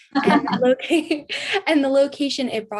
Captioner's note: laughs